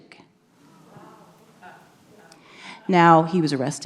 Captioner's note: audience members gasp